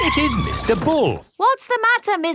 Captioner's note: tires screeching